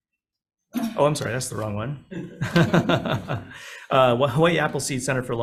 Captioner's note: laughs